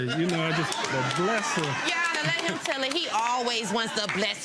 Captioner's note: laughing